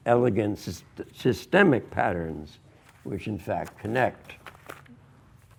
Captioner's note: none